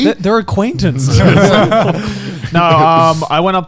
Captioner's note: laughing